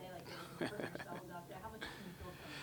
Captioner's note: chuckles